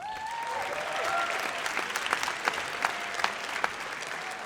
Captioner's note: audience cheers